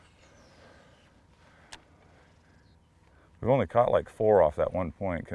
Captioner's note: rod whipping; reel spinning